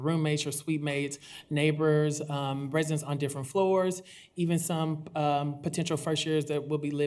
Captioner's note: none